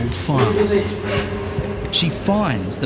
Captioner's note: woman chattering